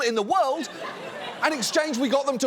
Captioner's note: audience laughing